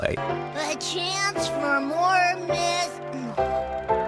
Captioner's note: disappointed sound